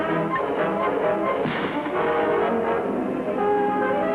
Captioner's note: gun bangs